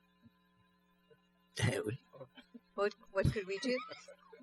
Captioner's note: speaking french